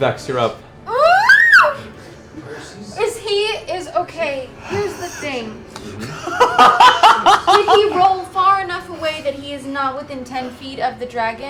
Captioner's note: screams